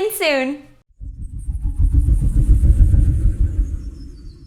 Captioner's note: whooshing